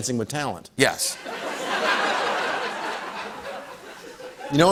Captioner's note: laughter